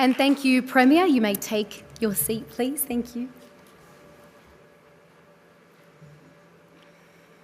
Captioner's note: applause